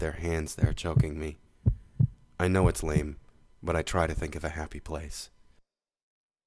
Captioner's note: heartbeat stops